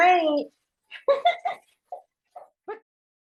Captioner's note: giggles